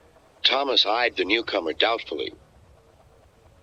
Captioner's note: through a voice box